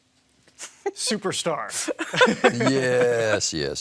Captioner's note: laughing; laughs